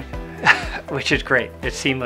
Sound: laughs

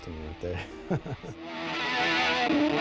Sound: laughs; powerful electric guitar playing

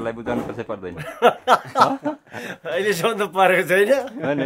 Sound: laughter

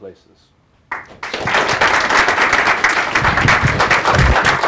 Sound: audience applauding

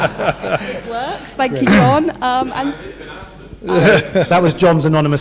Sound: laugh

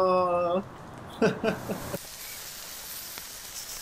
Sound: laughing

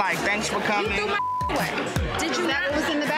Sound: beep

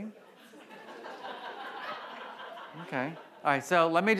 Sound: audience laughs

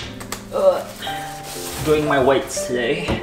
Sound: grunting

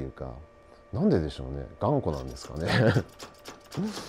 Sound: laugh

